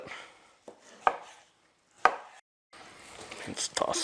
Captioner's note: sound of chopping